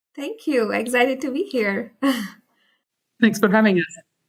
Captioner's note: chuckles